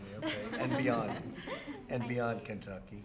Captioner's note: laughter